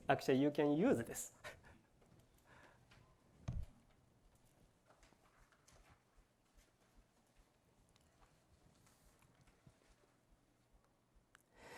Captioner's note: laughs